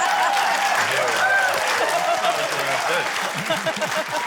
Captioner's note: laughter, cheering, applause